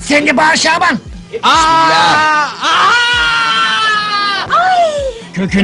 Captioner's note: Şaban screams